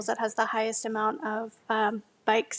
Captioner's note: none